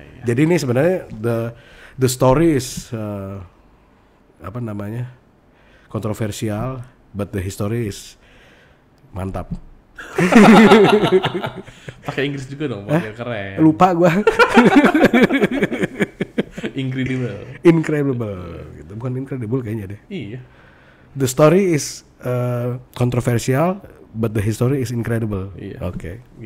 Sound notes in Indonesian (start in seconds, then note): 10.0 ketawa; 14.2 ketawa